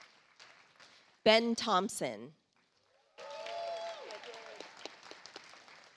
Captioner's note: audience applauds